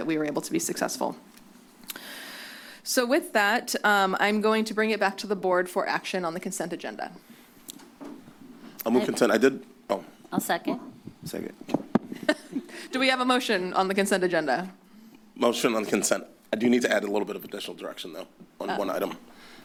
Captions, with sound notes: we were able to be successful. So with that, um, I'm going to bring it back to the board for action on the consent agenda. - I move consent. I did. Oh. - I'll second - Second. - [laugh] Do we have a motion on the consent agenda? - Motion on consent? I do need to add a little bit of additional direction though on one item.